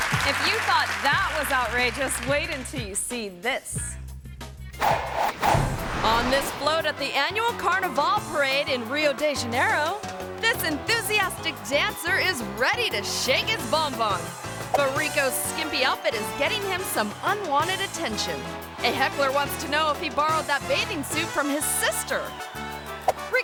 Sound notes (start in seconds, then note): 4.8 air whooshes